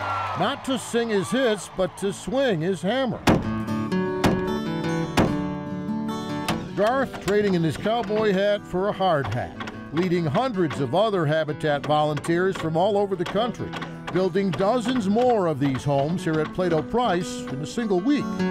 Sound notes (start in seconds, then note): 0.0 crowd cheering; 3.3 hammer thumping; 3.3 uplifting music